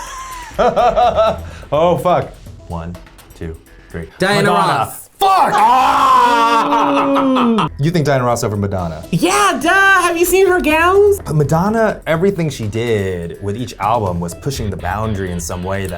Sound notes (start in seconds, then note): 0.1 laughs; 5.2 grunts; 6.2 laughs